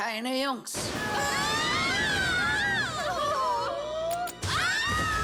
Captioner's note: screaming